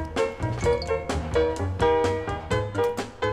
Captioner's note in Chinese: 手機提示聲